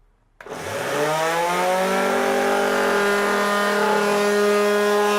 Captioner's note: sander roars loudly